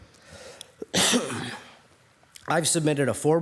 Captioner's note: coughs